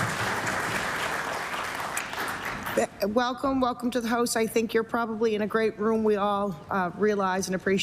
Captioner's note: applause